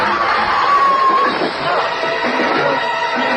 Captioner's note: groans